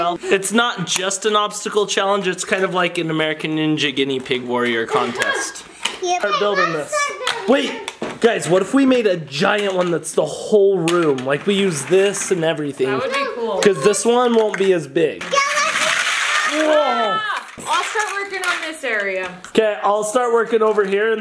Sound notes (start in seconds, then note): 15.0 legos clanking